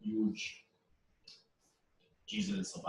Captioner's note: pause